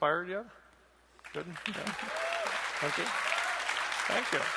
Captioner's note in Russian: аплодисменты